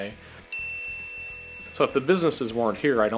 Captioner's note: ding